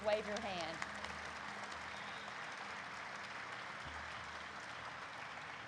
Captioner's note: audience applauds